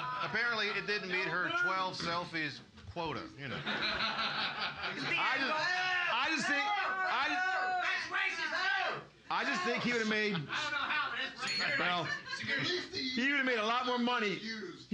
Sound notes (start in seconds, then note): 3.7 loudly laughing; 5.0 audience shouting; 11.4 bell softly chimes